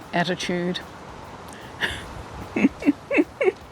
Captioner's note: laughing to myself